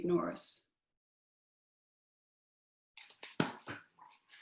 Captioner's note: silence